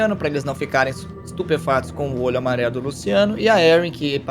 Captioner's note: none